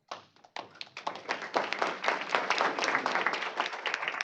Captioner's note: applause